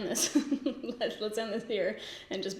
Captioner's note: laughs